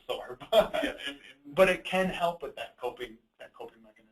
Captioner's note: both laugh